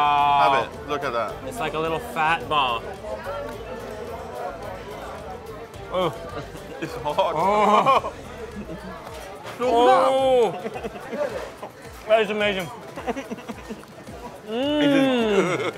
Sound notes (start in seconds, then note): 6.0 laughs; 6.2 grunts; 11.3 laughs; 14.5 moans; 14.5 laughing